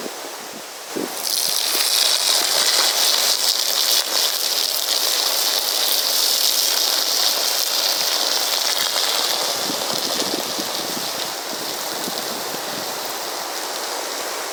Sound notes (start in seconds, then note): 1.1 splattering